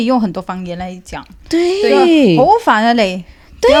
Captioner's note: 粤语; Cantonese